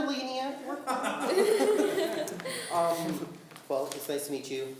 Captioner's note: laughing